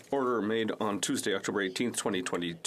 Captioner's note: speaking French